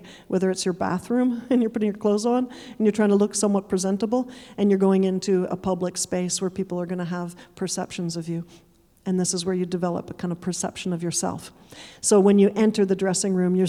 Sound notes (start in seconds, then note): none